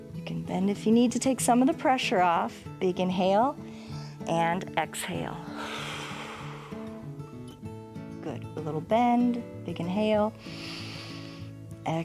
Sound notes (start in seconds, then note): 5.0 exhales; 10.9 inhales